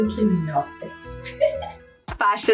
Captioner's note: laugh